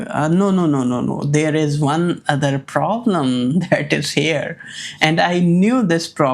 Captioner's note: laughs